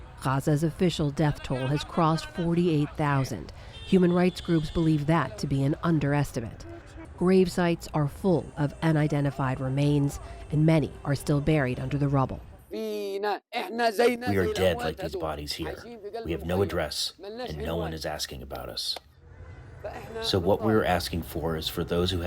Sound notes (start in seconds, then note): 14.6 through translator